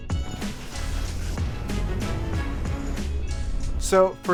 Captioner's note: wind whooshing; skis swishing